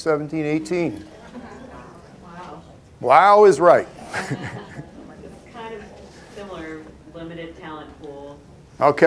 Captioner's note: laughter